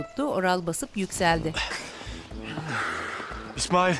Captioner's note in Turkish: Nefes sesi